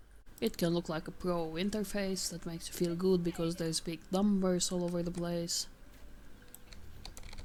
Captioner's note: game voice: And stay down